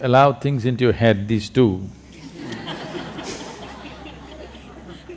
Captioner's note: laughter